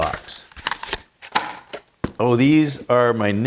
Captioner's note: plastic crinkling